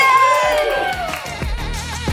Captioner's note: crowd cheering; upbeat music